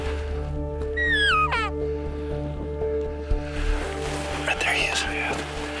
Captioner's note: elk call sounding